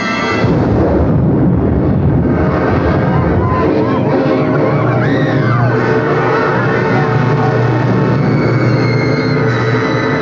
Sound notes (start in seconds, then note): 0.7 explosion booming; 0.7 ominous music; 3.2 Munchkins screaming